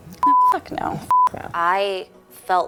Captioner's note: beeping